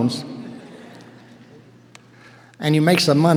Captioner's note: audience laughing